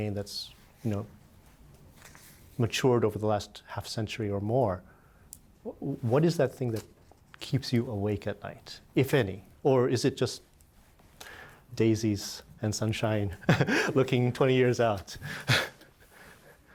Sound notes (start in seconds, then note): 13.4 laughter